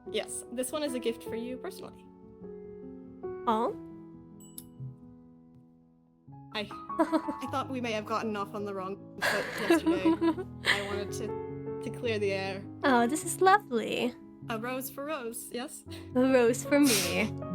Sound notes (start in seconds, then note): 6.6 ROSE chuckles; 16.0 ELEOS giggles